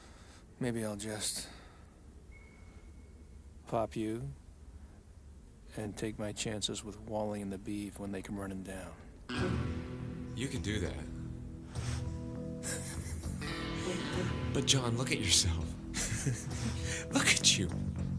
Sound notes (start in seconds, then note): 12.5 man laughing